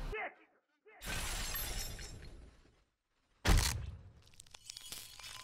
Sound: glass shattering

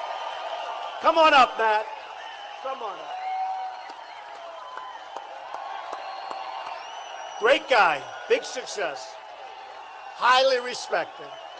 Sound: applause

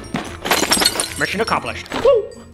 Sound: broken glass shaking

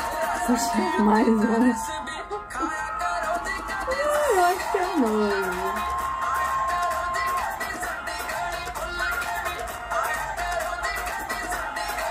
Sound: applause

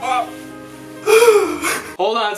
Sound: sobbing

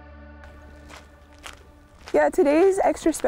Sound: footsteps crunching

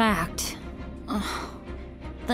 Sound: sigh

